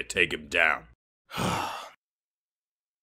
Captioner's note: sigh